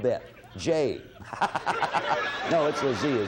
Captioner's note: Bill laughing